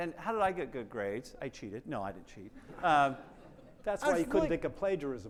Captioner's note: attendees laughing